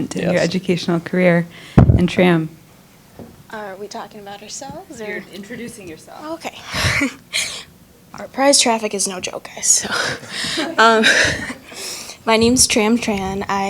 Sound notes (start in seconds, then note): 6.4 laughing; 10.2 audience laughing